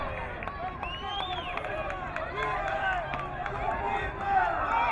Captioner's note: crowd cheering